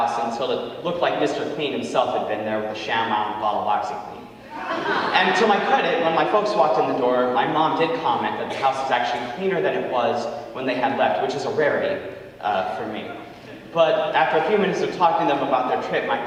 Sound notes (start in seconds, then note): 4.4 audience laughing